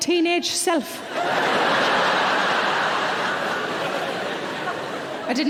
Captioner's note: audience laughing